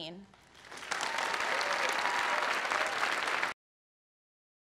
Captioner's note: applause